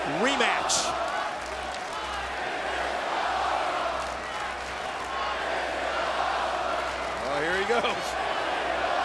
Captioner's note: applause